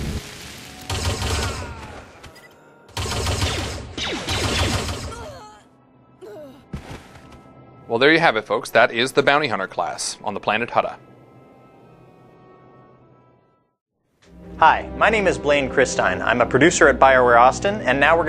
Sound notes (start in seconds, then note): 0.8 blaster fire